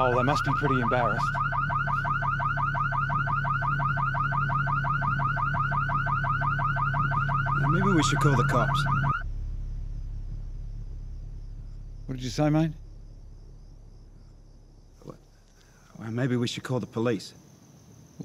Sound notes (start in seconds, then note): 2.6 car alarm blaring